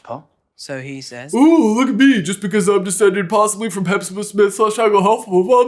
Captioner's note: mockery